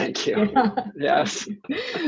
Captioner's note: both laughing